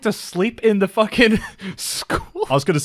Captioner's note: laughs